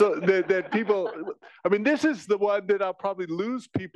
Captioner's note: laugh